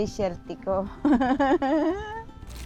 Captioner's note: laughs